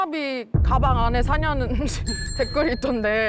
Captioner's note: logical tone sound effect